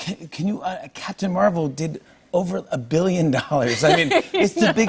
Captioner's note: laughing